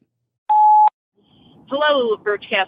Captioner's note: phone beeps